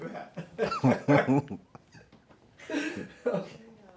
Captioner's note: laughing